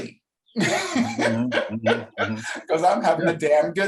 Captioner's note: laughs